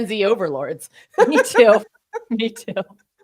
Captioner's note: chuckling